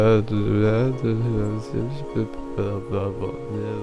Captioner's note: mumbling fades out